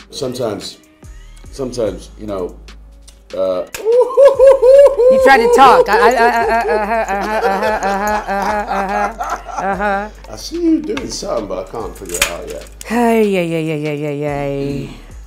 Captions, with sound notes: Sometimes. Sometimes, you know? Ooooooooooohhhohoo! - You try to talk Hey. Uh huh, uh huh, uh huh. (Idris laughing) - I see you doing something but I can't figure it out yet. - Ha... yeah, yeah, yeah, yay.